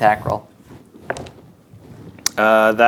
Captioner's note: dice rolling